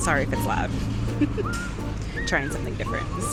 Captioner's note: laughs